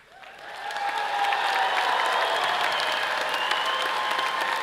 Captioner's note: all cheering and applauding